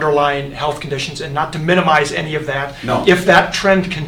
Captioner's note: off mic